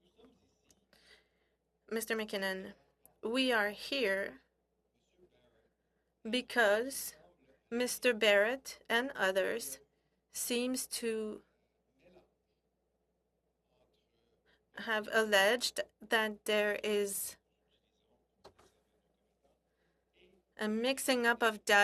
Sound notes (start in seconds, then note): 9.2 speaking French